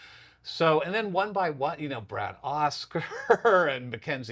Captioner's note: laughs